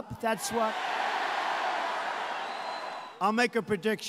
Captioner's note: cheers